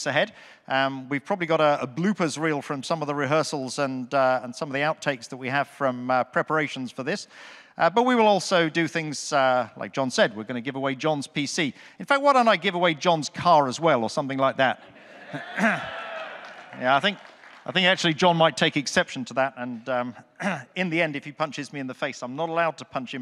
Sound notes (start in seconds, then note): 15.0 audience cheers, claps